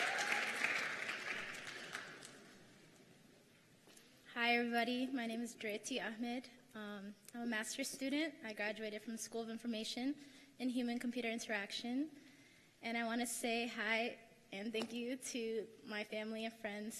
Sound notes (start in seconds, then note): 0.0 applause